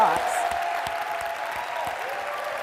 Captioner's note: applause